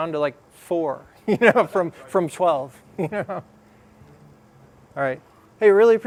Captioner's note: laugh